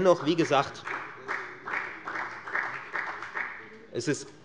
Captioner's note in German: Beifall bei der FDP und der SPD